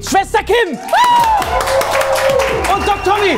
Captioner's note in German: Jubel, Applaus